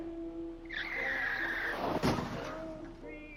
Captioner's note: tires squealing